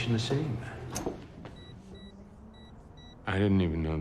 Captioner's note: safe beeping